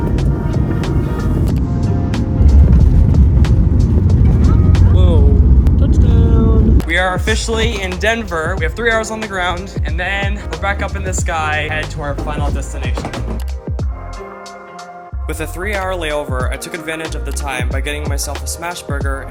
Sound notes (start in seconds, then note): 15.2 voiceover